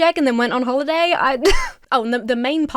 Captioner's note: Emma chuckles